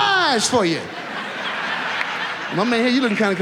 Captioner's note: audience laughs